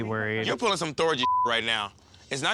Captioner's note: beep